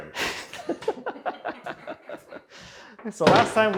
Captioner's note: both laughing